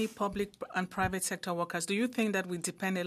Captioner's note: speaking French